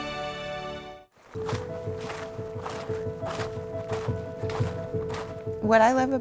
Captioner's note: bright music; gentle music; snow crunching